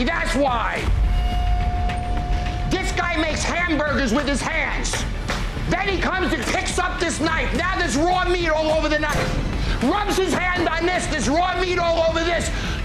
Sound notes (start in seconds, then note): 4.8 hands slapping